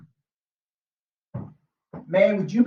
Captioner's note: ball thumping